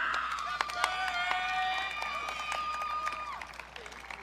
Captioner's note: audience cheering